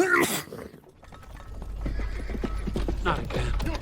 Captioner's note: sneeze; hooves approaching